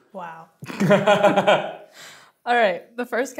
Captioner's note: laughing